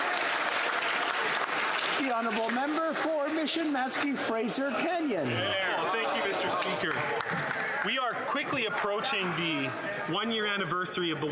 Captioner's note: applause